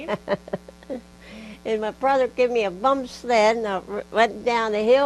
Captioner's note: laughs